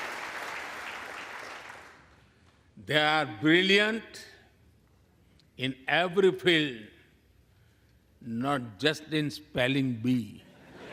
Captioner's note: applause